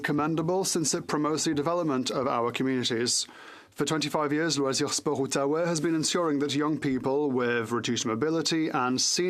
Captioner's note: french